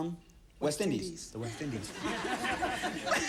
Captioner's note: laughter